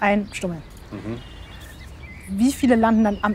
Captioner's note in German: zustimmendes mmhh